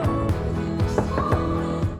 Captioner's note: knocking on the door